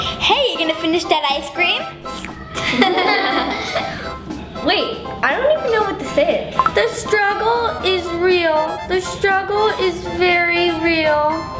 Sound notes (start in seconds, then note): 2.5 laughing